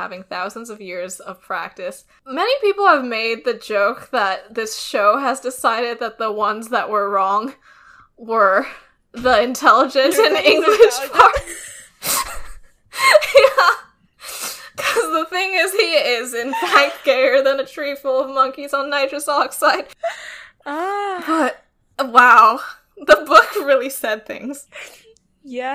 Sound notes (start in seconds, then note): 10.1 both laughing; 24.6 laughs